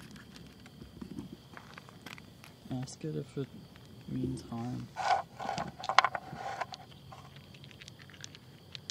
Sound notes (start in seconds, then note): 4.9 dice rattling